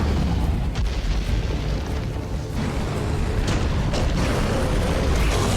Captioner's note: wraith growling continues